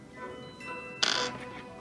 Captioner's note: tak